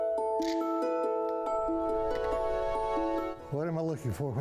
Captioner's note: camera clicks